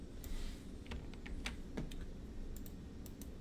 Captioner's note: mouse clicks; keyboard typing; mouse clicks